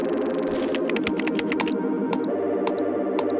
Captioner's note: upbeat electronic music; keyboard clacking; mouse button clicking